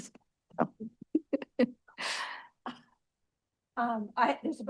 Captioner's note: laughter